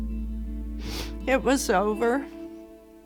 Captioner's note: sniffles